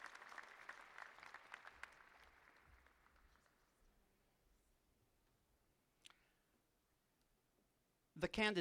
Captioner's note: applause